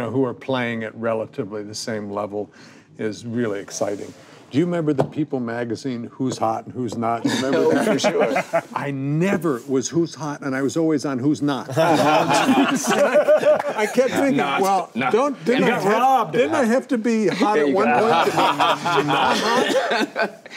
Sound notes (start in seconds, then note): 11.7 group laughing; 20.4 laughs